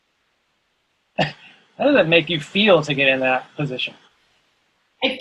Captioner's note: laughs